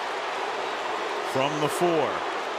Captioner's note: booing